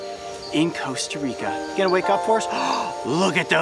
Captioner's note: gasping